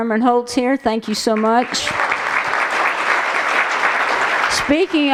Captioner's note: applause